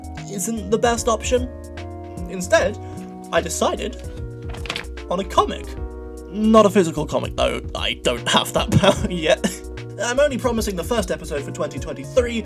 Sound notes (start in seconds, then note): 4.4 paper rustling; 8.7 laughs